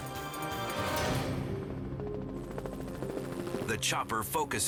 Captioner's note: helicopter droning